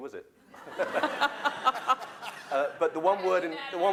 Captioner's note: laughter